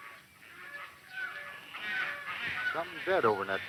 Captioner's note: vultures squawking